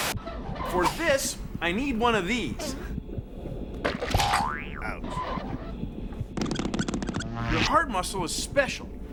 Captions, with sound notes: FOR THIS I NEED ONE OF THESE. [ BOING! ] OUCH. [ SQUEAKING ] YOUR HEART MUSCLE IS SPECIAL.